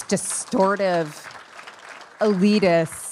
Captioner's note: attendees applauding